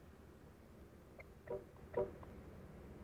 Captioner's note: honks